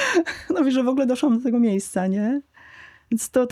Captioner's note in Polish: śmiech